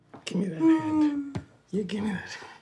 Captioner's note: moaning